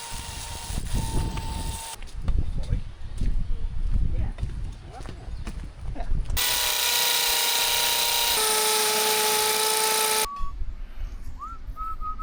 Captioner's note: metal clanking